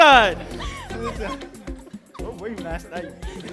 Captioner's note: chatter, laughter